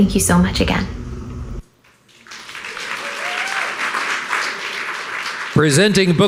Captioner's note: audience applauding